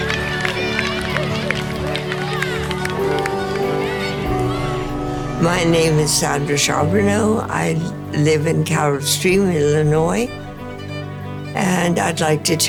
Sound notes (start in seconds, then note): 0.0 crowd cheers and applauds; 2.1 bright music continues; 2.1 crowd cheers and applauds